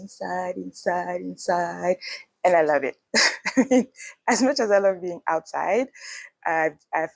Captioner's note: laughs